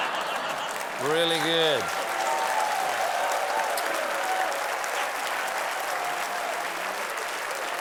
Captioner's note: laughter; applause